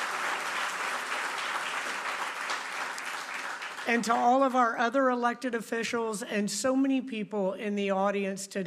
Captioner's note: applause